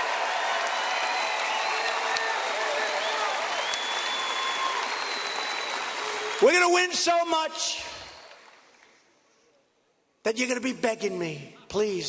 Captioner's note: applause